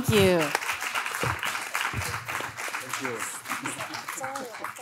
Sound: audience claps

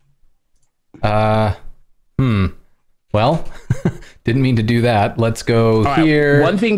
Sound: laughter

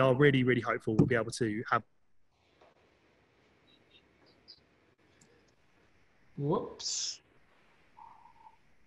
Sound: cuts off

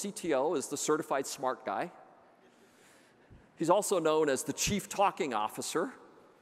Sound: none

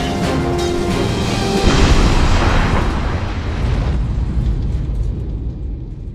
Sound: explosion

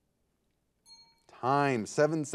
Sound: bell rings

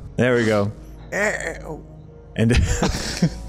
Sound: makes a hesitating sound

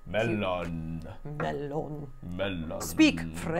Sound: Imitating Gandalf

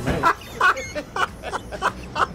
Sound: laughs

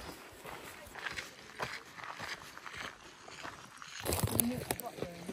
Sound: crunch, crunch, crunch

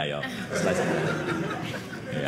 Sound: audience laughing

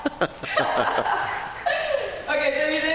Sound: laughing

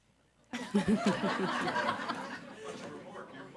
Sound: audience laughs

